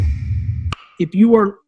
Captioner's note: clicks; thuds